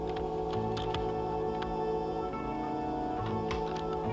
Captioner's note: gun clicking